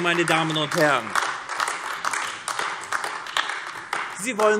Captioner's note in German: Beifall AfD